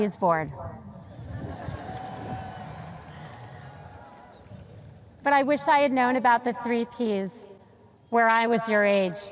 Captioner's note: sparse cheers